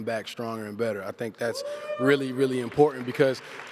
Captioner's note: cheers and applause